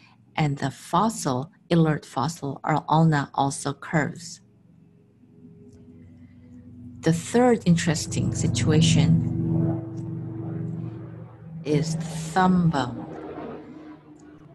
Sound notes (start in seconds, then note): 4.5 sound of chopper flying